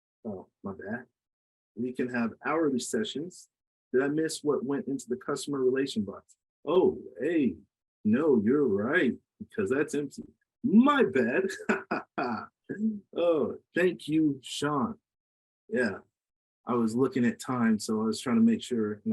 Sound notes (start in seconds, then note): 10.7 laughs